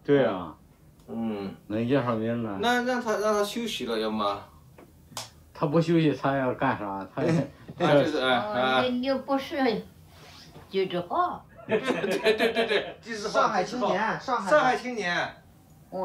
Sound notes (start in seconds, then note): 0.2 speaks in Chinese language; 11.5 laughter; 13.2 speaks in Chinese language